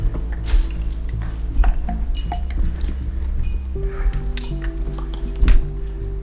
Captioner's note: metallic clinking; scuffling; metallic clinking; heavy breathing